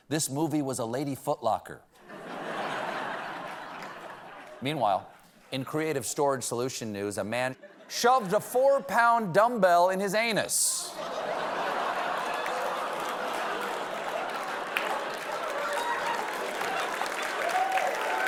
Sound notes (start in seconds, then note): 7.5 laughter